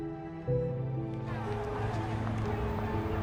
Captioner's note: crowd talking